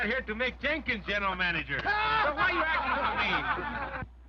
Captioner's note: all laughing